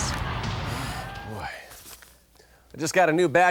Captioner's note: sighs